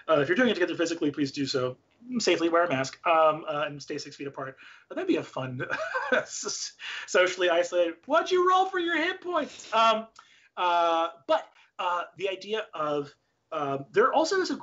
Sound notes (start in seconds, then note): 5.6 laughs